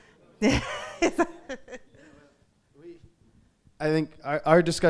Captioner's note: laughing